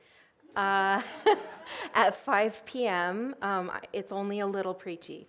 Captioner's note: audience laughing